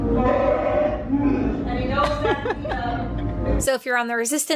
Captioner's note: Chewbacca growling